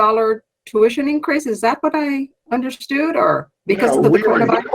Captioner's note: speaks faintly